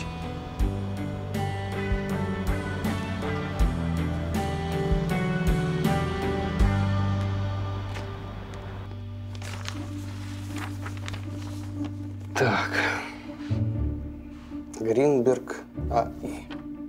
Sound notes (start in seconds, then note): 0.2 romantic music; 8.8 pages rustling